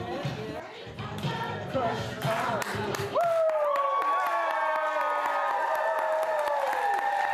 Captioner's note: audience cheering